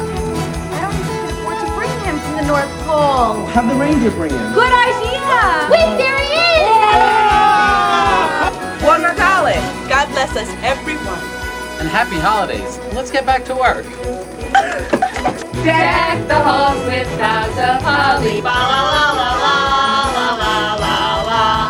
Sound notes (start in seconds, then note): 14.4 laughing